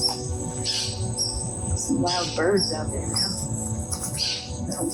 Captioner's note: squawk